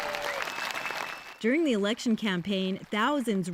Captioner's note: applause